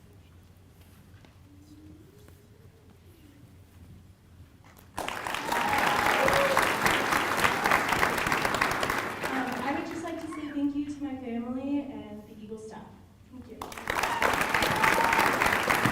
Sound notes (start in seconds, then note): 9.8 applause